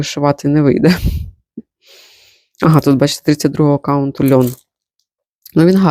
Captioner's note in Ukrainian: сопіння